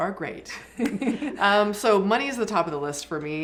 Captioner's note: everyone giggling